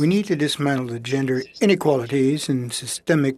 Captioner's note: speaking French